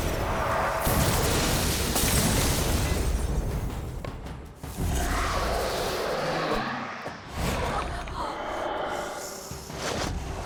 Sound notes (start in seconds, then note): 0.6 rocks exploding; 4.9 Dragon-marked roaring